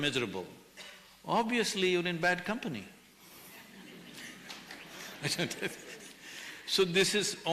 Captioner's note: laughs